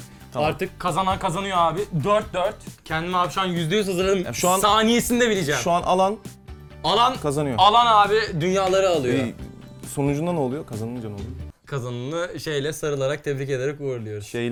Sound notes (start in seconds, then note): none